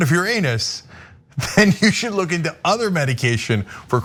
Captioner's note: laugh